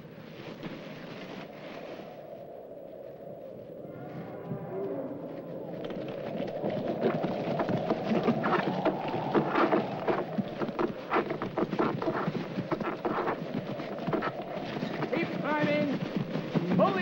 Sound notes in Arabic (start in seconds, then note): 2.2 تهب الرياح; 5.4 هبوب الرياح; 5.8 صوت العربة